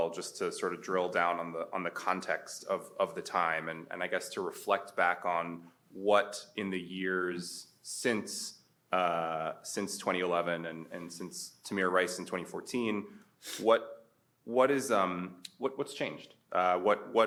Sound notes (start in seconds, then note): none